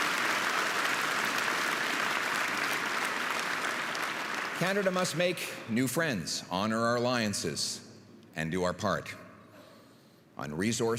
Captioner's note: applause and cheering